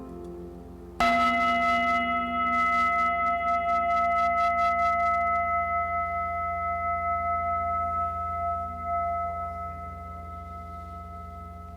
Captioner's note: singing bell rings